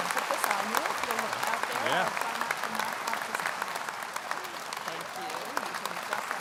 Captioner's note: indistinct conversation